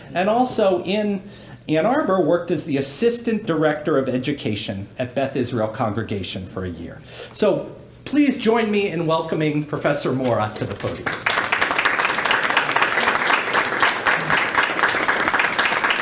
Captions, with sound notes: And also, in Ann Arbor, worked as the Assistant Director of Education at Beth Israel Congregation for a year. So please join me in welcoming Professor Mora to the podium. [APPLAUSE]